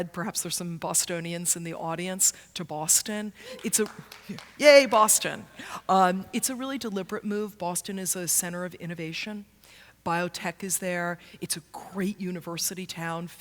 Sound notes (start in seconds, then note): 3.5 applause